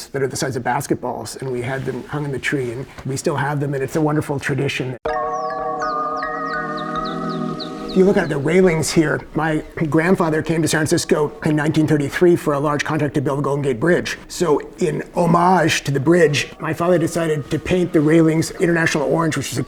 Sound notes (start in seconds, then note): 5.0 mellow music; 5.2 bird chirping effect